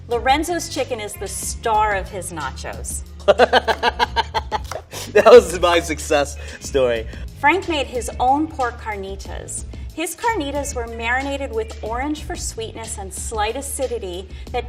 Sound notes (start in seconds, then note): 3.2 laughing